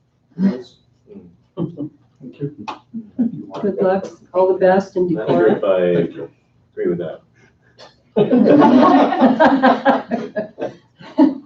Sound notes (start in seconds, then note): 3.0 chuckles; 8.2 laughing